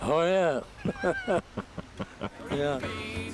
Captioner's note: Don laughs; laughs